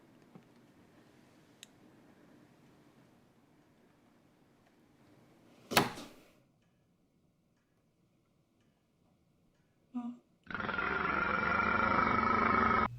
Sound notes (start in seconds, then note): 5.6 lightswitch click; 10.4 belch of plague